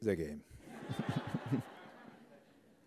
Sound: laughter

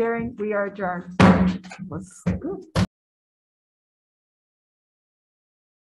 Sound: gavel banging

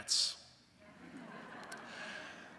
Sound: audience laughs

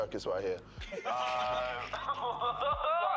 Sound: laughs

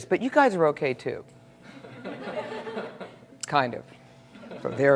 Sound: laugh

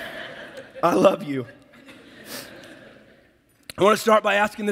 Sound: audience laughs

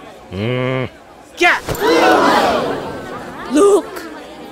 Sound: gasps

